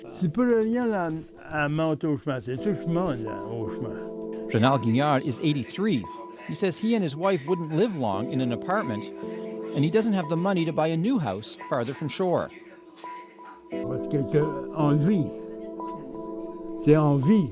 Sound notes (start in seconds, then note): 4.0 speaking french; 15.4 speaking french